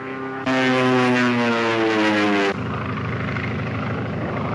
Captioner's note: gunshot cracks; engines roar